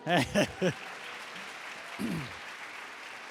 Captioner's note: applause